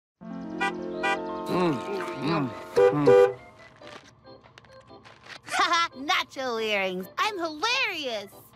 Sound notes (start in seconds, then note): 0.3 Stan honking horn; 1.4 kids munching